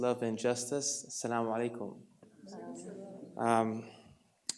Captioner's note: foreign language